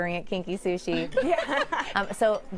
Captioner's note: laughter